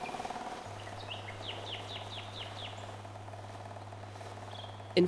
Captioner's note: motor boat revving and starting